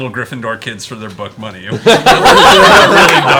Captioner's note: all laugh